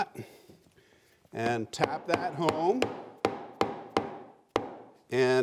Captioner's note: hammer thudding